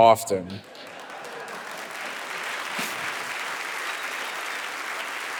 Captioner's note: audience applauding